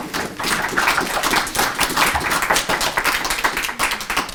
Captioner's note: applause